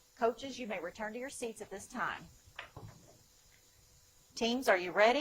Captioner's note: none